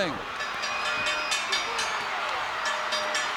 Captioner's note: bell rings